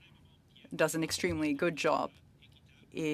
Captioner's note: speaking French